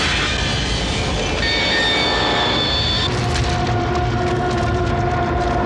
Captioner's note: tires squealing